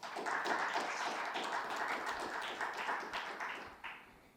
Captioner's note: audience clapping